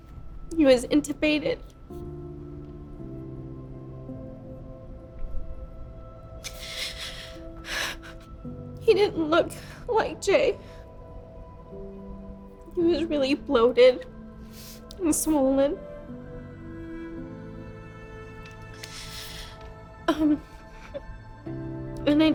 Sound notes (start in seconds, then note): 2.0 dramatic music; 6.4 sobs; 10.8 dramatic music; 16.0 dramatic music; 19.9 sobs and whimpers